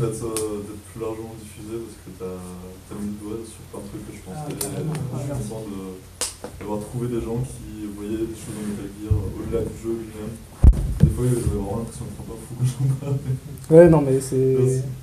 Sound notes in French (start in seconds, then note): 11.9 rires